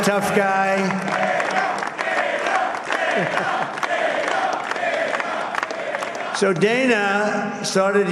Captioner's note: applause